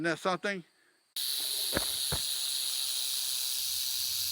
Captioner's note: snake rattling